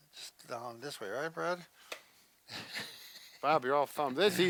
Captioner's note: laughing